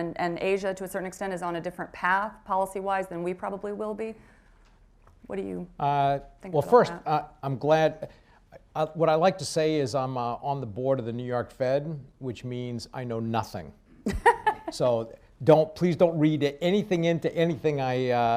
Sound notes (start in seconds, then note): 14.1 laughs